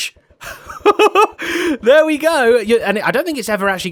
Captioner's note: laughs